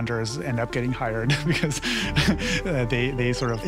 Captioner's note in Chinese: 笑聲